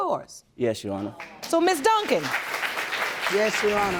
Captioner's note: audience applauding